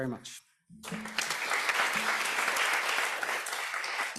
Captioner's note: applause